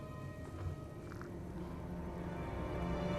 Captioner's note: rustling